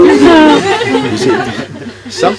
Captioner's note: laughter